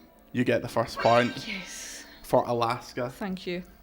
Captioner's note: winning noise